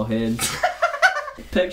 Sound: Benedick laughs

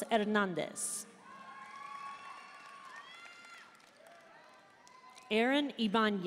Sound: audience cheering and applauding

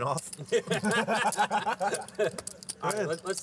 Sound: laughter

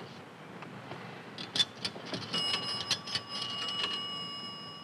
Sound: coins dropping

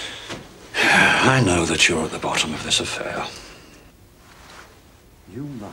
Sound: deep sigh

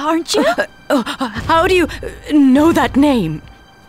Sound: stammering

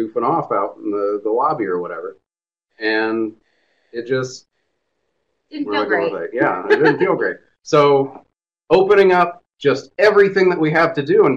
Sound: laughs

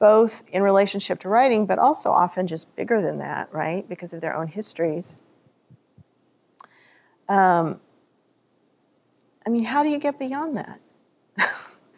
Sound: scoffs

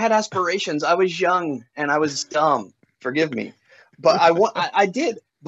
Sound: laughs

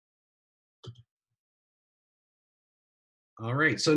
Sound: clicks

